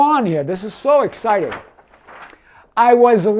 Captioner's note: paper rustles